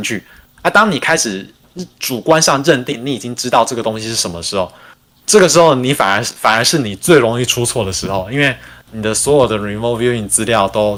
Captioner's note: non-english speech